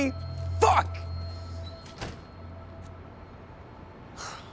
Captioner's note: door shuts; sigh